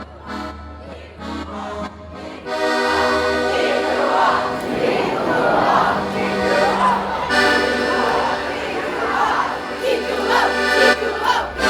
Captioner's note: crowd chanting " !"